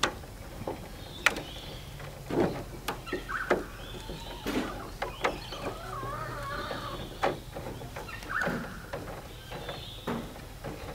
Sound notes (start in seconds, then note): 6.3 sifter mesh scraping